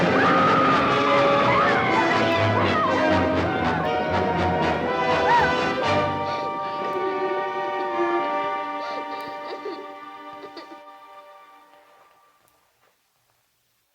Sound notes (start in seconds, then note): 0.2 women scream; 8.0 girl sobs